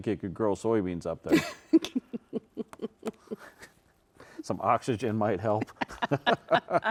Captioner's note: laughing; both laughing